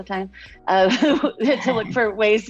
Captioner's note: laughs